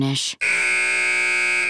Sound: buzzer

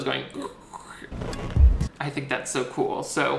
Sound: mimics leather creaking

